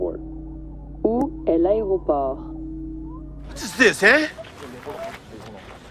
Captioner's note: french playback